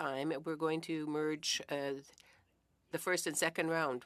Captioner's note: speaking French